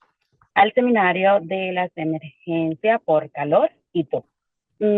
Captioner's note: speaking in Spanish